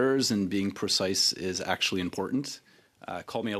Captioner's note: speaking French